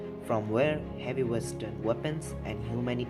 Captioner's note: none